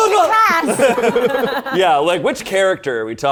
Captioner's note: all laughing